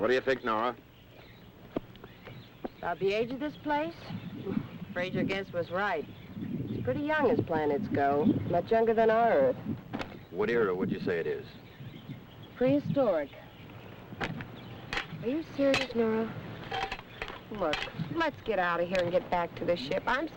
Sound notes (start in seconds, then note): 1.5 birds chirping; 4.3 chuckles